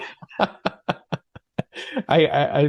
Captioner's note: laughing